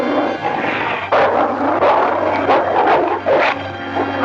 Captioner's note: dog barking